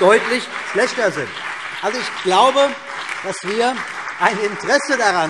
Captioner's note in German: Beifall